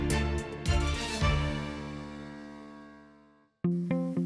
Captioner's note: echoes